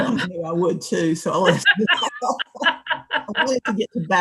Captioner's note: laughter